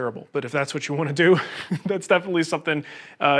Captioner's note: chuckles